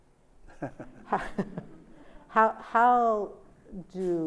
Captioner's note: Sonia and Albie laugh